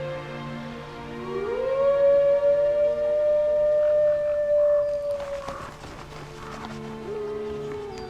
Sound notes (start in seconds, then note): 1.0 howls